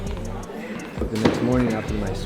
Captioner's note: customers chattering; soft upbeat music; hand thudding; glass thudding